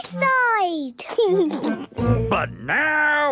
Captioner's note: laughing